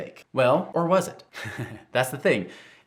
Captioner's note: chuckling